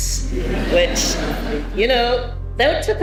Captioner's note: audience laughing